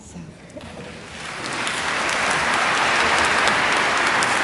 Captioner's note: applause